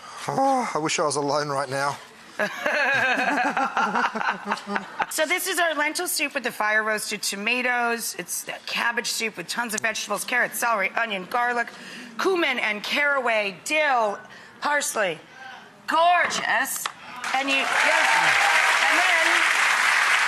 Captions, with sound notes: (groaning) I was I was in line right now. (laughing) This is our lentil soup with the fire-roasted tomatoes. It's that cabbage soup with tons of vegetables, carrots, celery, onion, garlic, cumin and caraway, dill, parsley. Gorgeous! (applauding)